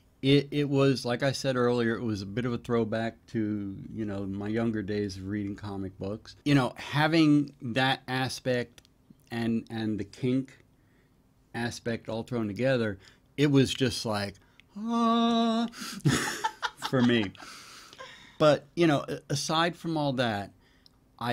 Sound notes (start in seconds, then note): 16.0 laughs